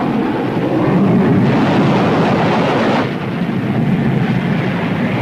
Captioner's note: water splashes; gun firing